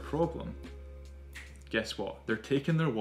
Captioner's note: snaps fingers